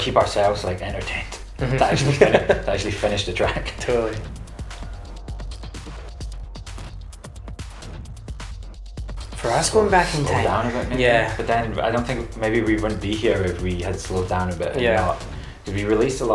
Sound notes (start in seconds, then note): 1.4 both laugh; 5.0 techno music